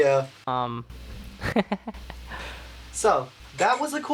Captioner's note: laughing